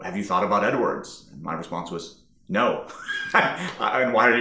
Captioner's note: laughing